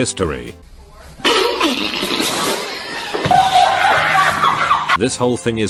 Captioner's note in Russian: смех